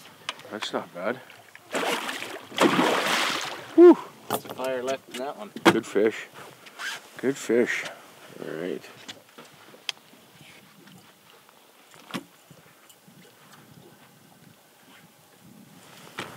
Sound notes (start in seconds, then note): 1.6 splash